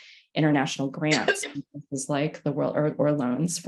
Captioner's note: participant coughs